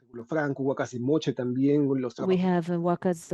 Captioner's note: speaking spanish